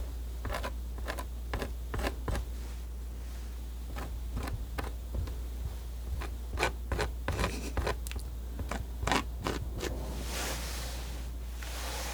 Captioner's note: scratching